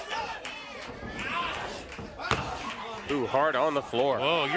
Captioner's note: crowd cheering